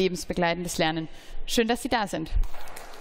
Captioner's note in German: Beifall